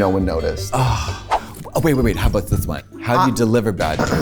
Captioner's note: sighs